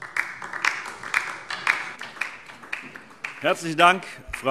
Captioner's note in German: Beifall DIE LINKE